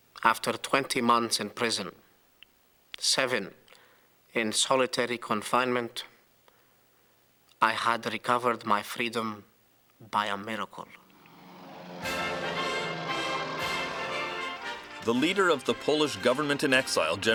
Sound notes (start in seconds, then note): 10.8 airplane roars; 11.7 triumphant music